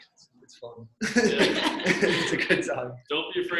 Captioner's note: laughs